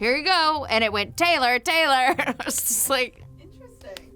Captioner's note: laughs